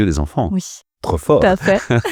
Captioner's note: laughs